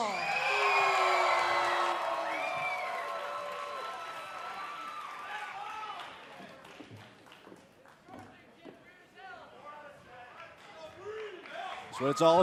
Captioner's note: cheers & boos